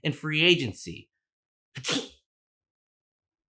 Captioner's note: sneeze